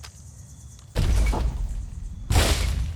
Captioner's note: crashing